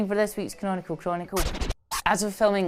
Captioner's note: disc scratching